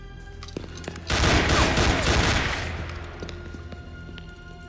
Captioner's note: gunfire clattering